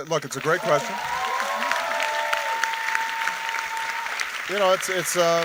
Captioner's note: audience cheering and applauding